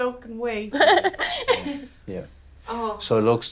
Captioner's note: laughing